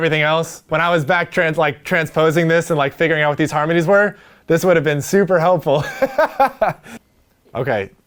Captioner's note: laughs